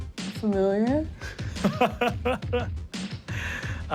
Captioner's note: laughs